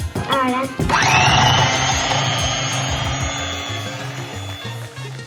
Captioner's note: sonido de batidora